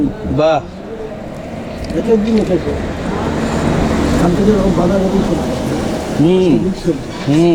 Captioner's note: car drives